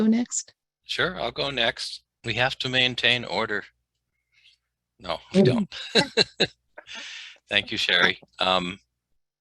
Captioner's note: laughter